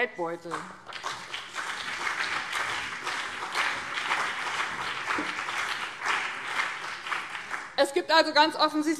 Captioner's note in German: Beifall BÜNDNIS 90/DIE GRÜNEN und CDU